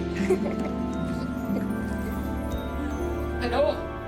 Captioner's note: laughs